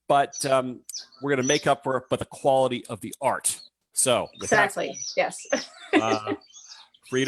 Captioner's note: chuckles